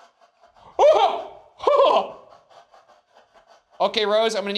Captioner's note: exclaims